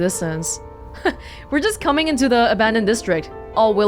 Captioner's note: chuckles